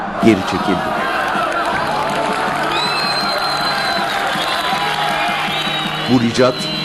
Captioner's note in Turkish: Alkış